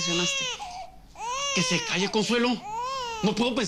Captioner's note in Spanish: Llantos del bebé